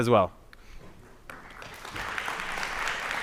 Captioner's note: applause